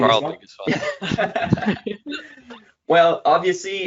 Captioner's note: laughs